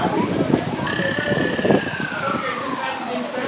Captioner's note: on walkie-talkie